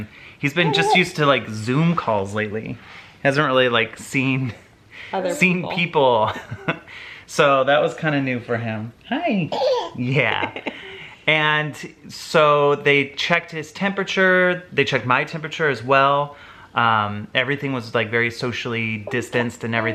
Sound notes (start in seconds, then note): 6.1 giggling; 9.7 cooing